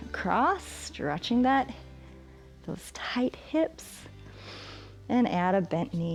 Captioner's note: exhales; inhales